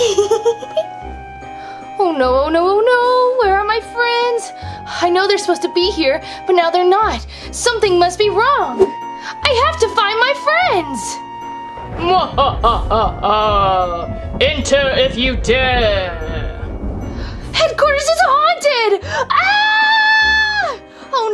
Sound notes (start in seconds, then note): 0.0 Owlette And Catboy Giggling; 12.2 ghostly Voice; 19.3 Gekko Screaming